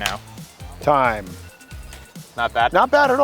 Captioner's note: alarm rings